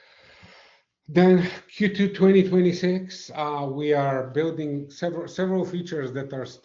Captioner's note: sighs and gasps